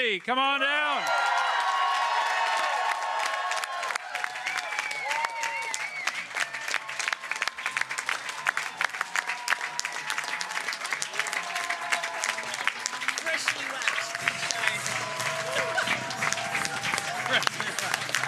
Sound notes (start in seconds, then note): 5.5 cheering